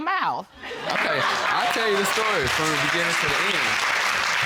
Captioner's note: audience applauding